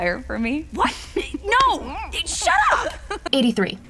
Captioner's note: Adora giggling her head off